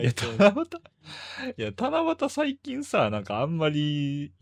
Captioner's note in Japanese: 笑い; 息をのむ音